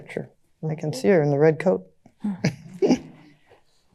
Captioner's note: chuckles